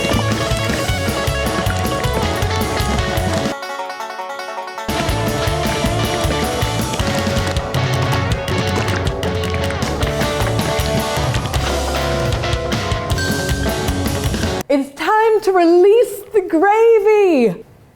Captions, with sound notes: (ding) - It's time to release the gravy.